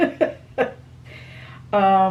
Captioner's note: laughs